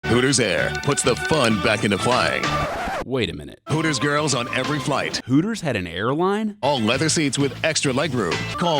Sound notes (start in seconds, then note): 1.8 record scratching